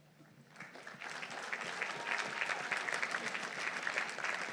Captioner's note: audience applauding